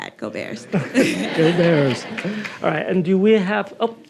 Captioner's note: audience laughing